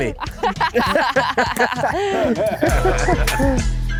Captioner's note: laughing; upbeat music